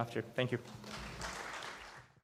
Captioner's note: applause